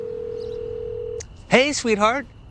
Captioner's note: phone rings